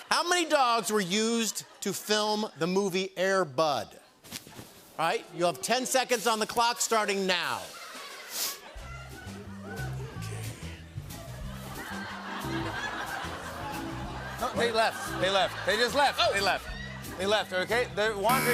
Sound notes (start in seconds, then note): 0.0 laughter; 7.6 laughter; 11.5 laughter